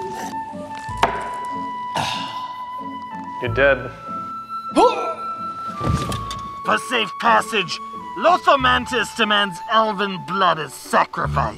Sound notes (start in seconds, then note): 1.9 satisfied exhalation; 5.1 death groan